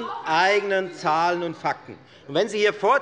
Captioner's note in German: Zurufe von dem BÜNDNIS 90/DIE GRÜNEN